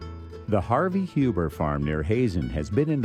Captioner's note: voiceover